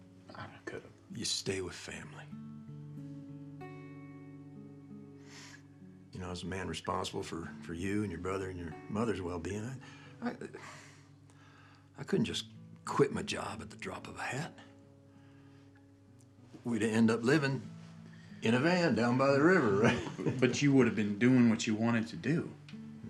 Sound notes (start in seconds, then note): 3.0 soft somber music; 9.8 sighs